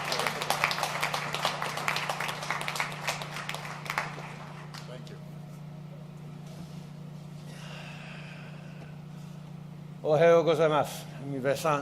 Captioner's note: applause